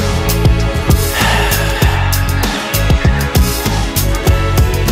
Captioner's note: Theo sighs